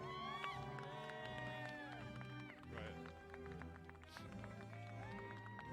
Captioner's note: applause